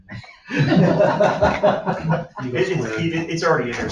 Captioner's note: laughter